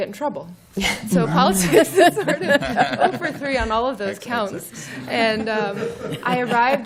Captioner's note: laughter